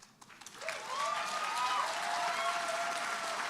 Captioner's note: applause